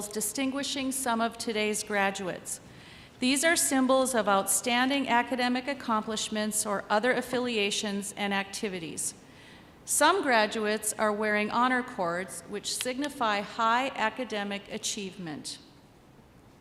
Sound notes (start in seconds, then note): none